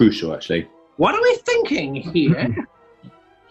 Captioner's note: exaggerated voice